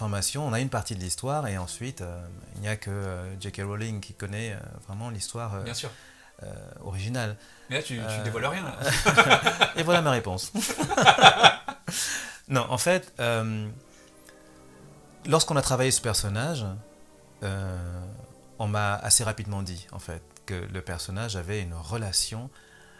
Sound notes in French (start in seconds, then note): 8.8 rires